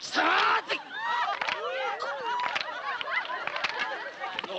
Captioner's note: laughing